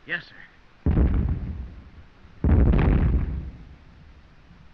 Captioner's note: explosions continue